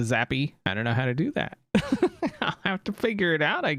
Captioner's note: laughs